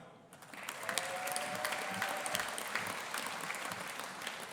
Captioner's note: audience applauding